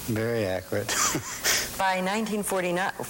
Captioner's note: chuckling